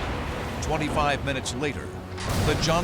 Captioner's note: explosions